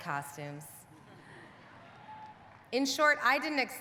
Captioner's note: audience laughing